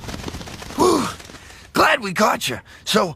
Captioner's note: sighing